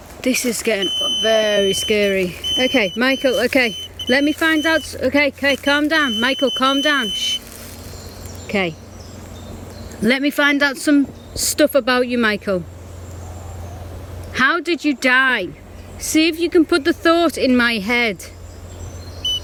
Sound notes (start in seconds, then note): 2.0 beeping; 4.6 beeping; 7.6 beeping; 8.3 birds chirping; 19.2 beeping